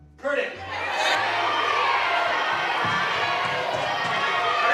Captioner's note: cheering